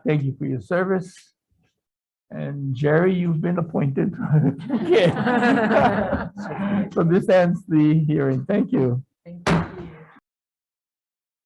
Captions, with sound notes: Thank you for your service, and Gerry you've been appointed. (group laughing) So this ends the hearing. Thank you. - Thank you.